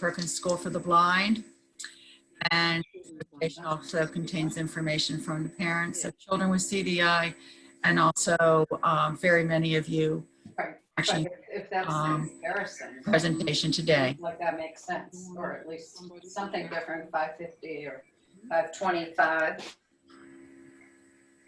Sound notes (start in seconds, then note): 13.7 indistinct chatter